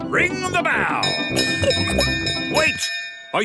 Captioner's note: bell chimes